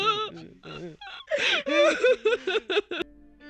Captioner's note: crying